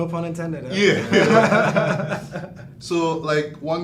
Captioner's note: all laughing